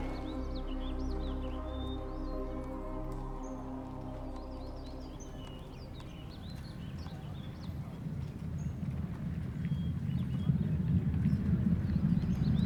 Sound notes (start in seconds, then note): 6.4 hooves thundering in distance